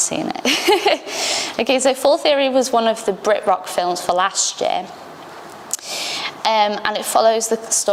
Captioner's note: laughs